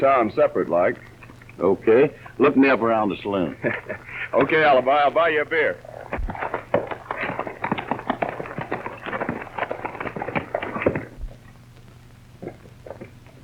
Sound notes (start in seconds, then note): 3.9 laughs; 6.6 hooves clatter